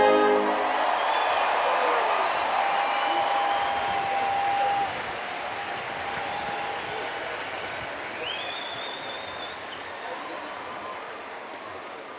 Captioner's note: applause and Cheers